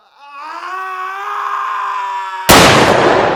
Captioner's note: screaming; gunshot